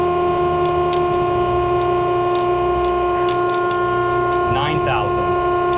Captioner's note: sling crackling